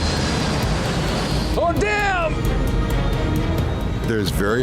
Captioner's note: passengers scream